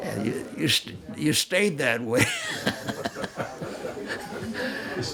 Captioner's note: laughs